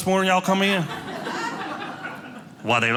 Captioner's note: audience laughing